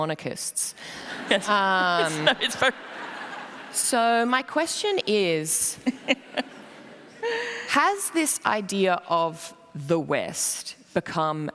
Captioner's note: laughter